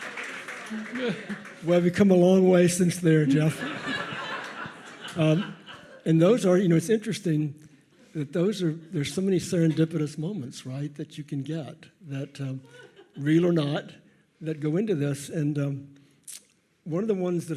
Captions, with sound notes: - Well, we've come a long way since there, Geoff. (audience laughs) And those are, you know, it's interesting that those are, there's so many serendipitous moments that you can get, real or not, that go into this. And one of the ones that,